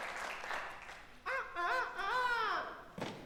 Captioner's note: Peter crows